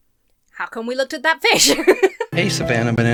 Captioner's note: laughs